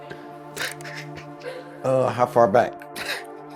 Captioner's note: chuckling